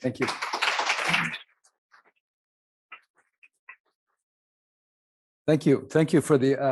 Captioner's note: audience clapping